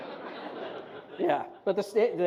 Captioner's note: laughter